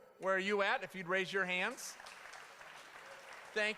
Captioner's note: applause